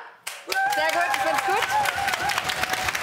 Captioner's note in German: Jubel